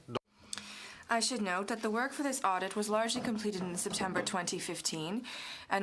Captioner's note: speaking french